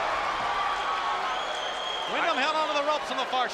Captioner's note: audience cheering